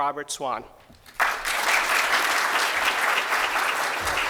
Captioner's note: applause